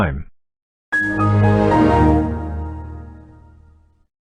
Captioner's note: Windows XP Shutdown